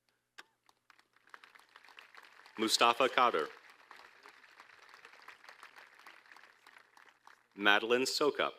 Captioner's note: applause